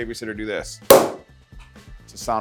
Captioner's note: item pops